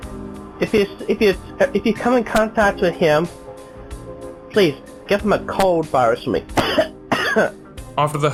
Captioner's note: coughs